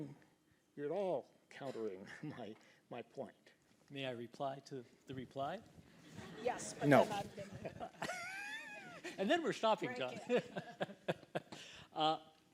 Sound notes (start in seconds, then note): 7.2 laughter; 11.0 laughs